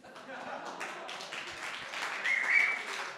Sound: applause

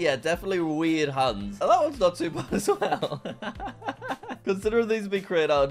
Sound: laughing

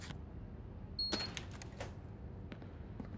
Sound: beep; footsteps

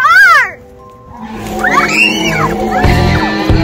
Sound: Pumpkin King roars

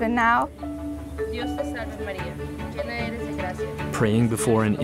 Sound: foreign language

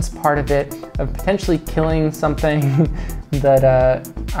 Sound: laughs

